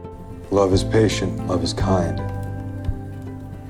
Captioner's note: voiceover